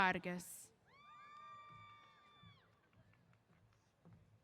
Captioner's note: cheers